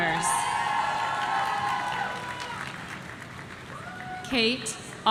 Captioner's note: audience cheering